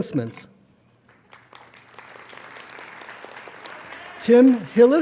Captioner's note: applauding